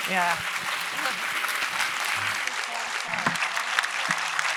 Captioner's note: audience applauds